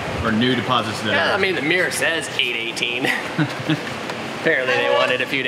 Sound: laughs

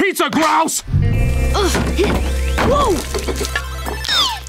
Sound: grunting

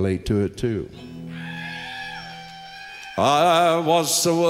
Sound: crowd cheers

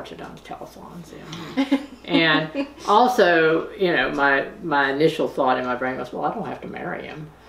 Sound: laughter

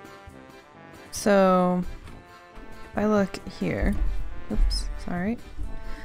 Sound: hits mic

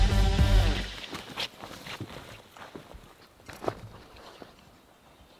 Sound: boots sloshing

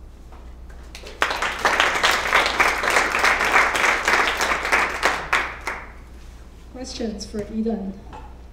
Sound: applause

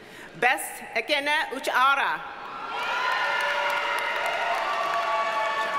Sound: audience cheers and applauds

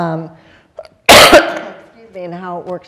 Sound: coughing

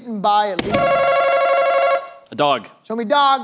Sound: answer button rings

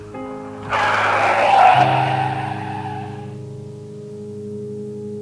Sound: brakes screeching

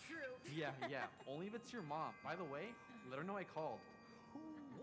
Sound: laughing

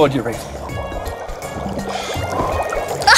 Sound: bubbling; blows

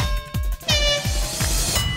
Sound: horn blowing

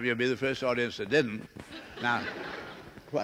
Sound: laughter

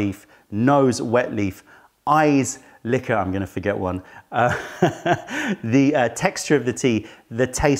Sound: laughter

